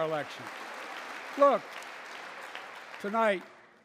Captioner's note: applause